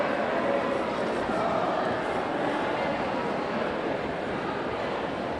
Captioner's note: audience indistinctly chattering